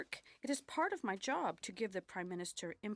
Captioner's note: speaking French